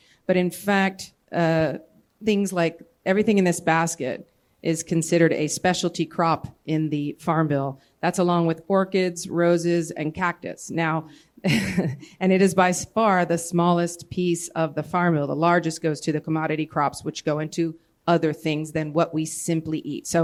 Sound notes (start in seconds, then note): 11.4 laughter